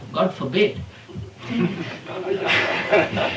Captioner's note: laughter